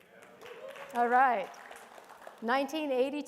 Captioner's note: attendees applauding